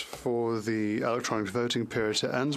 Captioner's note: speaking French